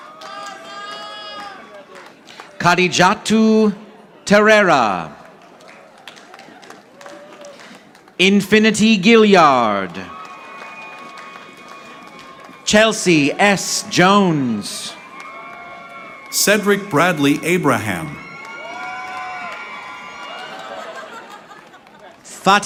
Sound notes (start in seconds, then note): 0.0 audience applauding; 5.3 audience applauding; 10.1 audience applauding; 15.3 audience applauding; 18.8 audience applauding